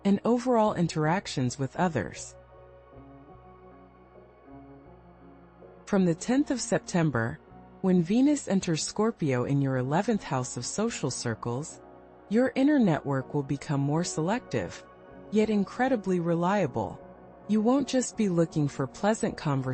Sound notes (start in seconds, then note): 4.4 pause